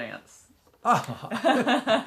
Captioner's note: chuckles; laughing